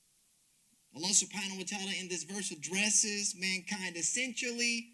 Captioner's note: speaks Arabic